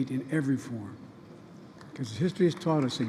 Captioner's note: applause